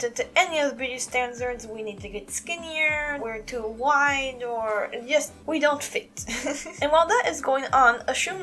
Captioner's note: chuckle